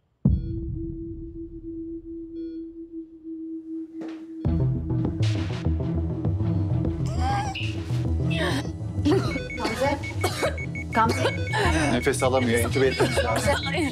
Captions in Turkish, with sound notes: (Gerilim müziği) (Zor nefes alıyor) Gamze! Nefes alamıyor, entübe etmemiz lazım.